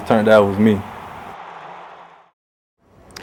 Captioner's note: crowd noise and cheering